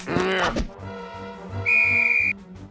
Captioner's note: blows whistle